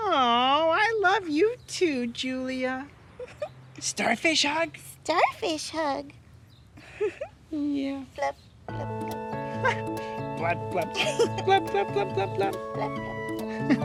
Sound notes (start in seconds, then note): 8.7 slow instrumental music; 9.5 laughs